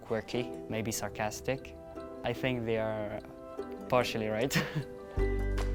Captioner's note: chuckles